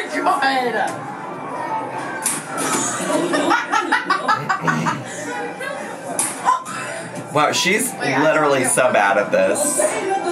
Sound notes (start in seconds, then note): 3.2 laughing